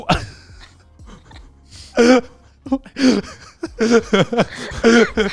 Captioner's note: laughing; all laughing